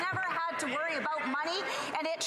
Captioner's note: some Applause